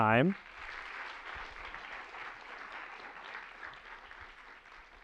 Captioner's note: applause